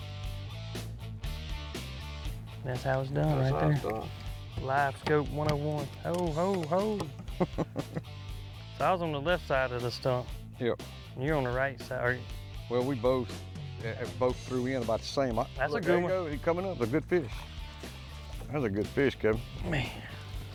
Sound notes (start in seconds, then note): 0.2 rock music; 7.0 chuckles; 17.5 rock music